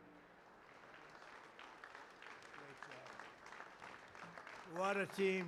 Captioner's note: applause